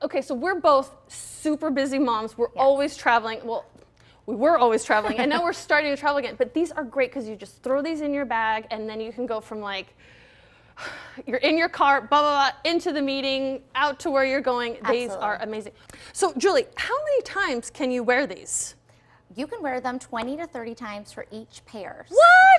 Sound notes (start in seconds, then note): 5.0 laughing; 10.0 exhaling